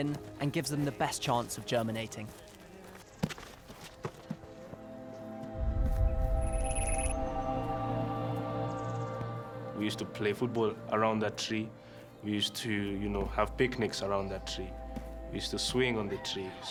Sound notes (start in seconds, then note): 3.0 birdsong